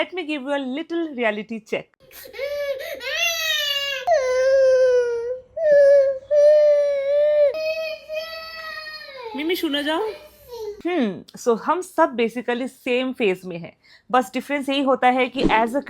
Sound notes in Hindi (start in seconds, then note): 5.6 रोने की आवाज़